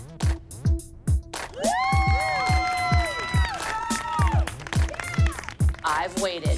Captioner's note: cheering